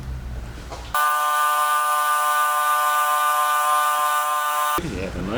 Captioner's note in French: meulage